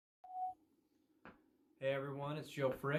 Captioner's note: beep